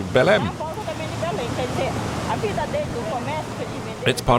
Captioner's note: Portuguese spoken audio